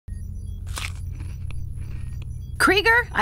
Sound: munching

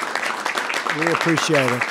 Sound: applause

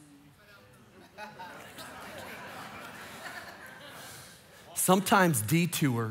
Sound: congregation laughing

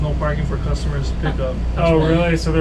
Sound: woman laughing

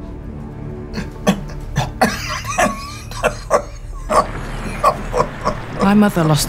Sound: Arthur coughs, wheezes painfully

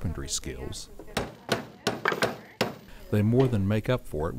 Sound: more hammering

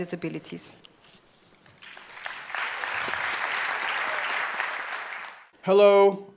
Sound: applause

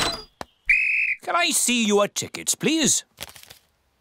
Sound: blows whistle

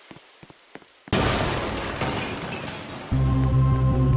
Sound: loud wall break

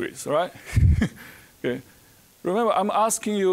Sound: chuckling

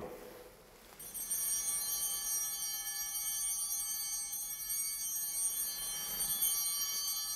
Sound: chimes ringing

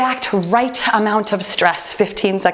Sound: timer beeping

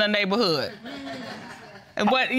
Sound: audience titters

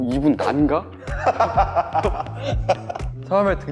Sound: hahahaha

